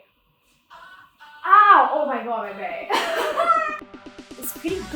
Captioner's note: laughs